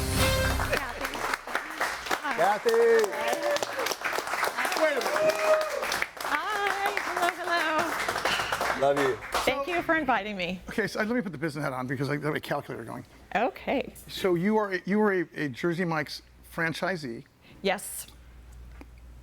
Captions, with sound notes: - Cathy. Hi. - Cathy. - Hi. (audience applauding) (audience cheering) Hi, hello, hello. - Love you. - Thank you for inviting me. - Okay, so let me put the business hat on because I've got a calculator going. - Okay. - So you are a Jersey Mike's franchisee. - Yes.